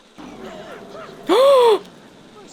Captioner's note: angela cheering, lilith crying emo tears; gasp